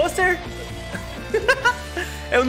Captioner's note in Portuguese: risos